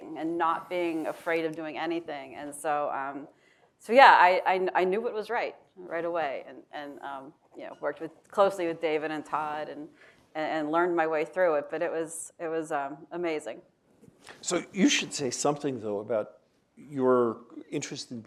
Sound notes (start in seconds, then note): none